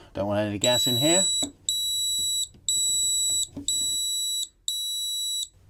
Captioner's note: loud Beeping Sound